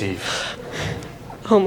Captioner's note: nervously breathes